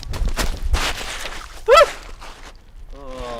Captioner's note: screams